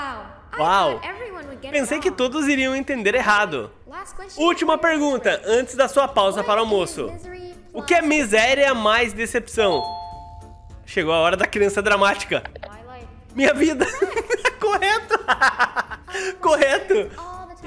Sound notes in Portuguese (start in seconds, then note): 13.7 risos